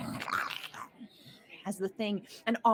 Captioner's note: growls